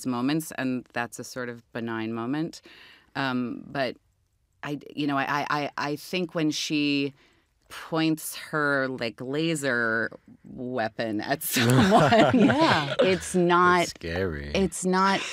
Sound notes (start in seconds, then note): 11.5 jesse laughs